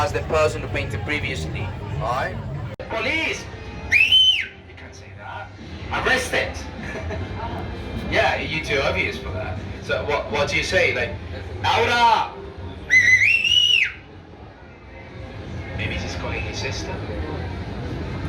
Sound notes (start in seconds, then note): 3.8 whistling; 12.8 whistling